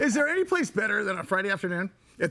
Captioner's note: laughing